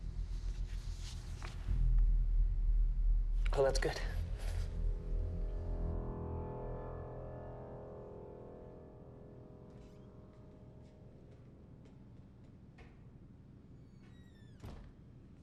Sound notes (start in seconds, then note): none